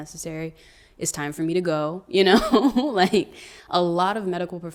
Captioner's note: laughs